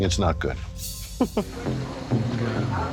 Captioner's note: chuckles